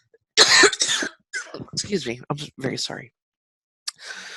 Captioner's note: coughing